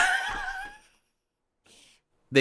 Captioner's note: laughs